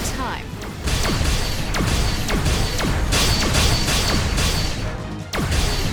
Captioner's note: blasts